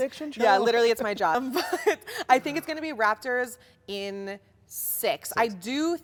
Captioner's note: laughs